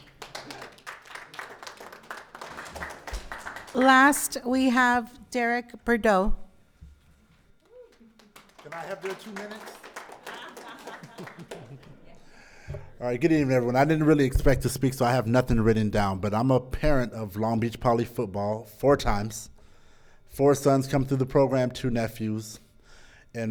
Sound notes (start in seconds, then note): 0.0 audience applauding; 7.7 audience applauding; 9.2 audience laughing